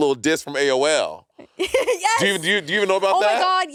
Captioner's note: chuckling